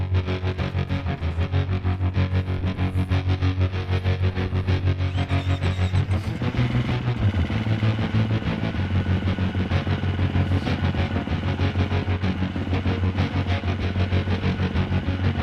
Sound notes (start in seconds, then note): 0.2 upbeat rock music; 5.5 engine rumbling